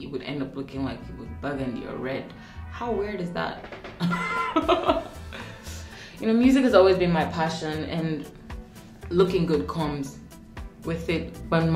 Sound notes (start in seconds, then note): 3.3 drumbeats; 4.0 laughing